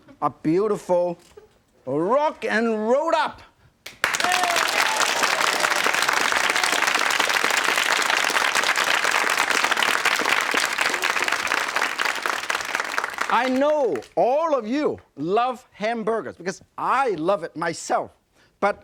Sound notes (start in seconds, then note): 4.0 audience clapping and cheering